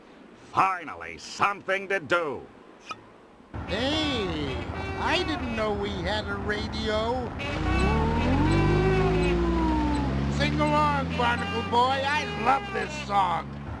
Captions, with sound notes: Finally, something to do! [honks an old horn as he pedals on a bike with training wheels] Hey, I didn't know we had a radio. Aooga, aooga! Sing along, Barnacle Boy. I love this song!